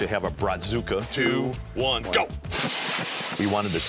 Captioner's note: cannon hisses